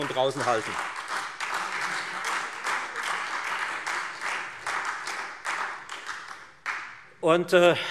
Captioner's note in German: Beifall Freie Demokraten und SPD